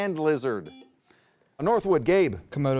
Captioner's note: buzzer beeps